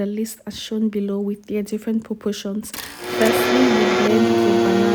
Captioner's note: sound from blender